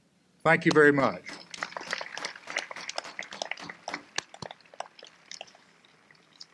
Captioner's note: applause